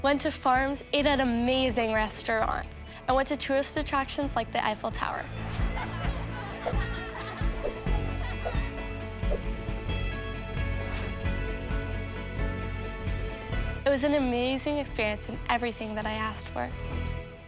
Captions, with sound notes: went to farms, ate at amazing restaurants. I went to tourist attractions like the Eiffel tower. (people laughing) (upbeat music) It was an amazing experience in everything that I asked for.